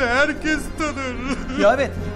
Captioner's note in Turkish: ağlama sesi̇